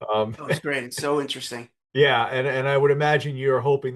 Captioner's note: laughs